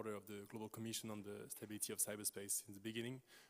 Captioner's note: speaking non-English